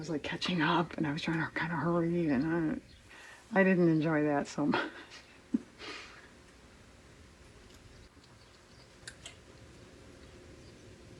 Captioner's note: laughs